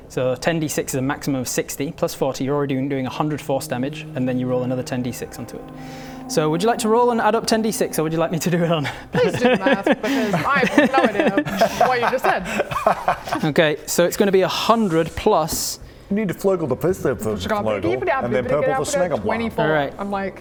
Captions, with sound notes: So 10d6 is a maximum of 60 + 40, you're already doing 100 force damage, and then you roll another 10d6 onto it. So would you like to roll and add up 10d6 or would you like me to do it on? Please do the math, because I have no idea what you just said. *dyscalculia supportive laughter* Okay. So it's going to be 100 +... - You need to flurgel the feefla flotle - Schkazal dodeeble dab - and then purple the snaggleblah. - digadabado 24, I'm like...